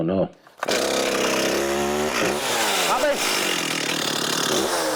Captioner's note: chainsaw engine hums